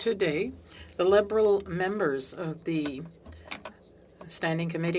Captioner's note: speaking French